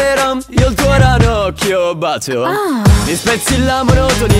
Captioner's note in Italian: ahh